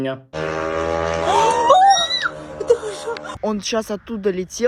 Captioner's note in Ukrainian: звук дрона